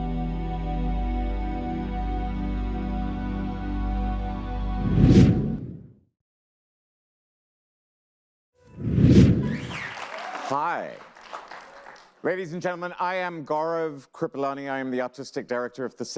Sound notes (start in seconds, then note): 0.0 gentle music; 5.0 logo rumbles; 8.9 logo rumbles; 9.4 audience applauds